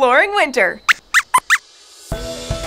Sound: squeaks squeaks

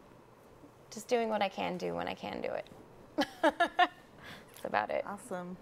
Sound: chuckles

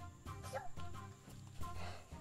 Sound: little girl imitating Hector imitating monkey

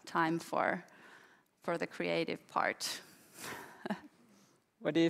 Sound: chuckles

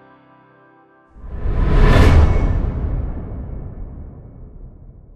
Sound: whooshing tone

